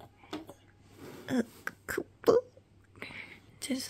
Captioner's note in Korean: 이상한 소리 따라함